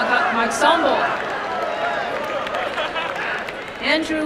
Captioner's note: applause and cheering